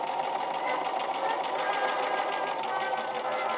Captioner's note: machine whirring